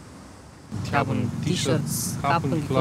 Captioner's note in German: verzerrte Stimme